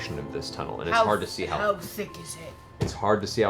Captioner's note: Grog voice